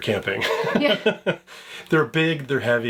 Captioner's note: laughs